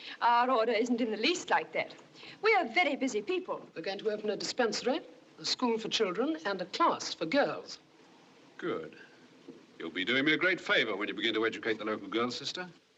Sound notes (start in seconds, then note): none